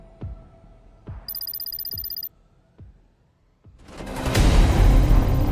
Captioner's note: electronic warbling; dramatic stirring music